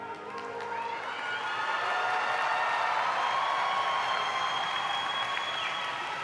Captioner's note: audience applauding